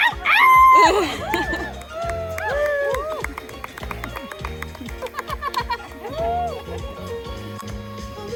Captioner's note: screams, applause, bubbles blowing